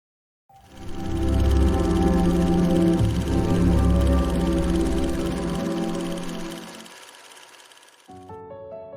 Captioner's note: reel projector whirring